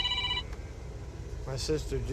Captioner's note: phone rings